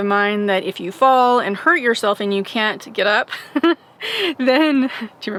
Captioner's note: laughs